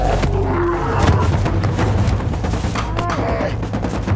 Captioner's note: bears shuffle in snow; heavy paws thudding; dramatic drum music